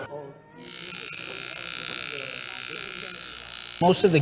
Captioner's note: engraving tool buzzing